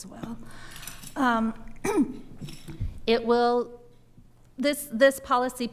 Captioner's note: clears throat